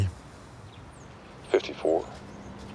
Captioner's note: on phone